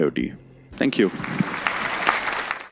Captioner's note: applause